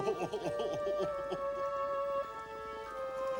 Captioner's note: sobbing